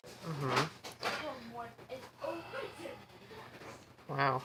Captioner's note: general household noise